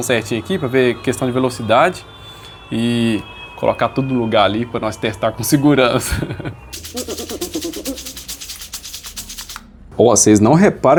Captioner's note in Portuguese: risadas